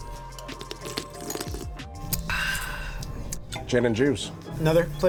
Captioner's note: exaggerated slurping sound